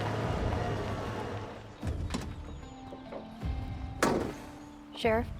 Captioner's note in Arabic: يفتح الباب، ويغلق